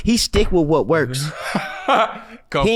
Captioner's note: laughs